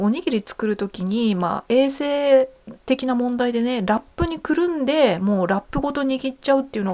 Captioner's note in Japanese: none